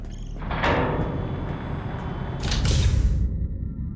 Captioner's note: door clanks, closes